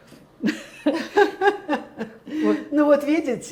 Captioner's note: laughing